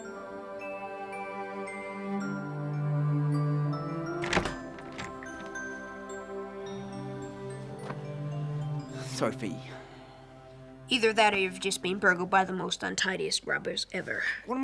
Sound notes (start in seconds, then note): 4.1 door opens